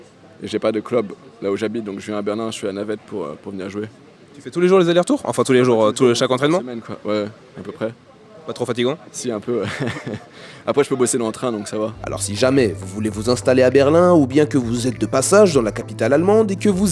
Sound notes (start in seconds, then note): 9.6 laughs